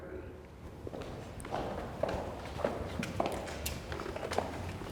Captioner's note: footsteps thumping